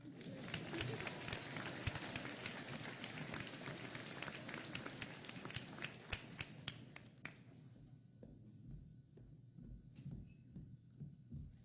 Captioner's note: applause